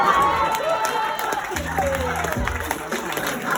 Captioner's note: applause